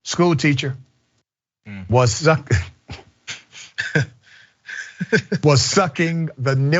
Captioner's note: laugh